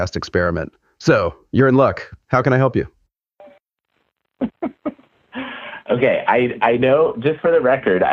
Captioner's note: laughs